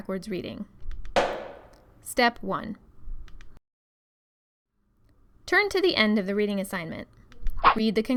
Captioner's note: loud footstep